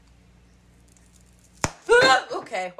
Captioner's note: mild pop